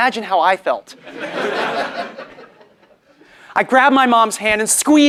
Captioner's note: laugh